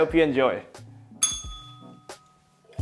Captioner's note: bell rings